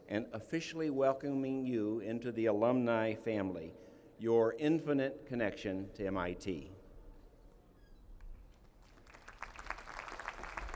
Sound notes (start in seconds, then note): 6.9 applause